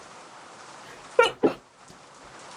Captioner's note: sneeze